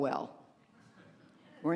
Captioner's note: laughter